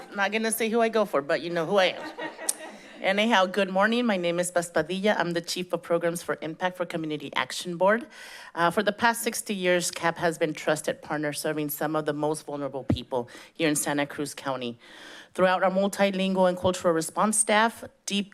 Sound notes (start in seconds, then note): 2.0 chuckles